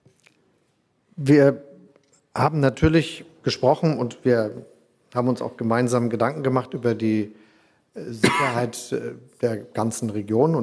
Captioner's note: Chancellor Scholz speaks in German